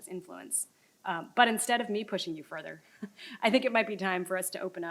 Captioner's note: chuckles